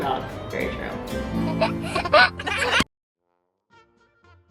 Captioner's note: baby laughs; playful music